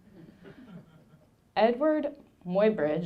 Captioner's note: audience laughing